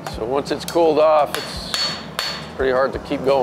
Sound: metal clangs

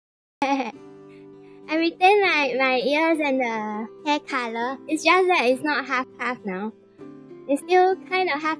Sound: laugh

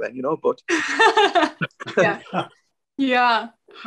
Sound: laughing

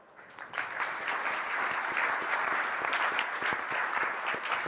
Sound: applause

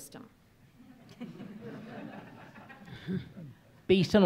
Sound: audience laughs

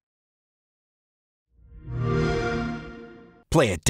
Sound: xbox sound

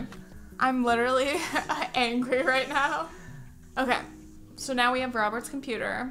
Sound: laugh

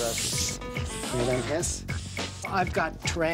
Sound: <i> roaches hissing</i>

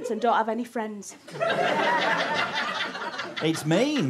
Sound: audience laughter

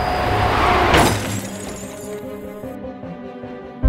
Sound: crash

